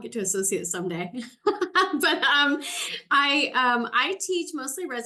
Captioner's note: laughter